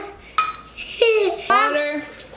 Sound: giggling

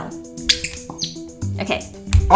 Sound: squeak!

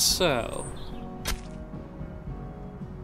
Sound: knife stab

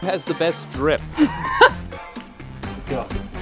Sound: laughs

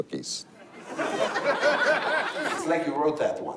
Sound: laughter

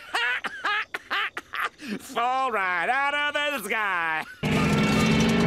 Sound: laughs

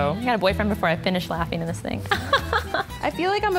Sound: laughs

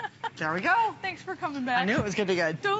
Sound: laughter

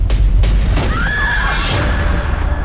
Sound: music intensifies; screaming

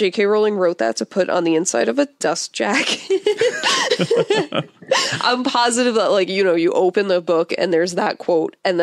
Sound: both laugh

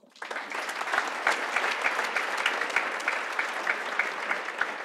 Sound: audience applauds

